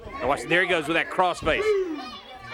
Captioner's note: crowd chatter